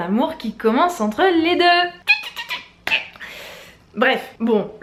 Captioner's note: excited noises